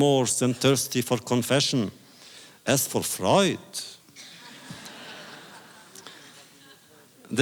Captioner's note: audience laughter